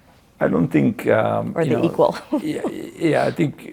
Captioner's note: laughs